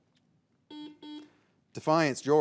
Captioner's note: signal beeps